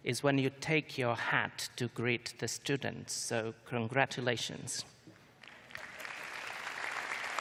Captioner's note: applause